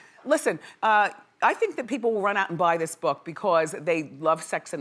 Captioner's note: none